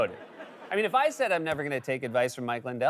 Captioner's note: laughter